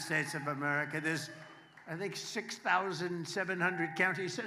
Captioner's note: applause